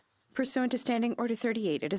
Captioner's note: speaking French